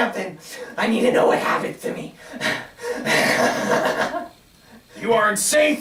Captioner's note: nervous laughter